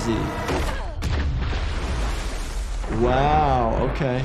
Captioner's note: water rushing